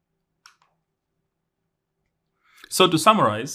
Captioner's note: remote clicking